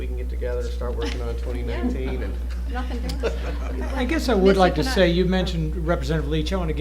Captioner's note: laughter